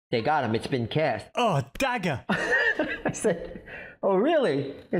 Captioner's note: chuckling